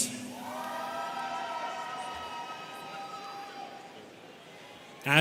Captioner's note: students cheering